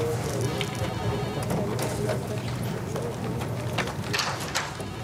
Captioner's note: Téléphone